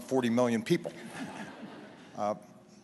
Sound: laughter

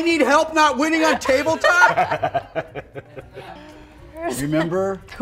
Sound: laughter

